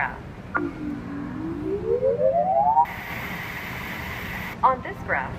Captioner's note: high pitched, rising tone followed by static noise